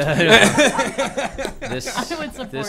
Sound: laughter

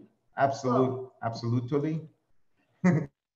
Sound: laughs

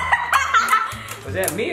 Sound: child laughing

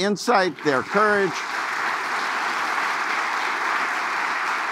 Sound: audience laughing

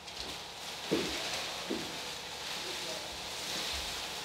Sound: rustling

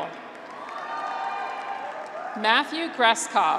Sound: audience applauds; graduates cheer

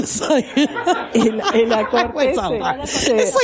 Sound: laughing

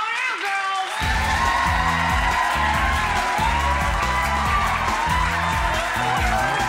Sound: audience applauding; upbeat music

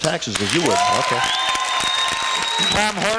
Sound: cheers, applause

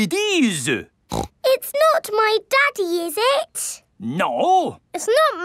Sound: snorts

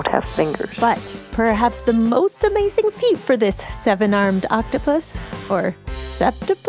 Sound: questioningly

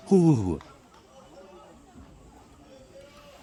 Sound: huhuh

